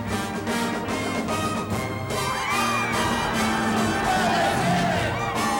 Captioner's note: cheering and whooping